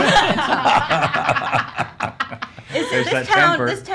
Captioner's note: laughs